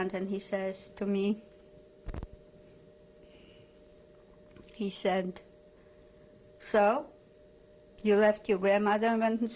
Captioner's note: pauses for 3 seconds